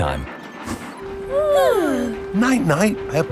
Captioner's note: both yawning